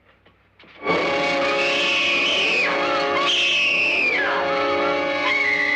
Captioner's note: screaming